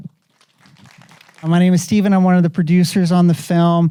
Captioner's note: audience applauding